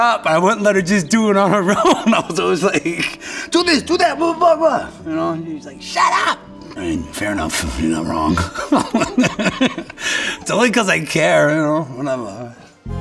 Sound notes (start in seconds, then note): 8.0 laughs